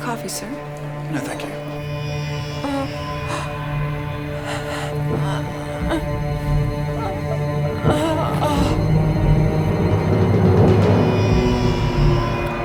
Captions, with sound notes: - More coffee, sir? - No, thank you. (Katie groaning) (suspenseful music)